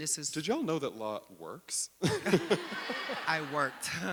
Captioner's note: audience laughing; laughs